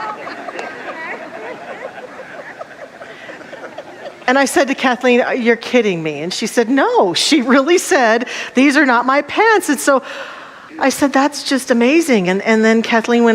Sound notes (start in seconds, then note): 4.1 audience laughter